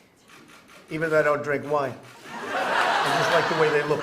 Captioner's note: laughter